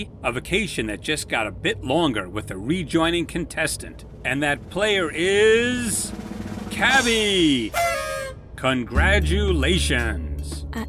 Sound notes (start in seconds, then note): 7.7 party horns